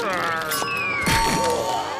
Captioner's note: cash register sound